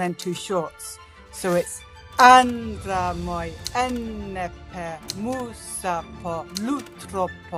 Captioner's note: speaks ancient Greek